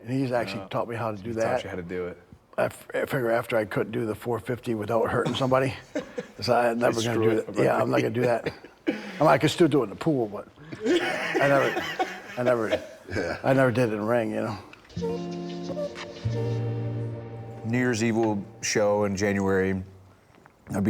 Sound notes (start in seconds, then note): 10.6 laughing; 14.9 bright rhythmic music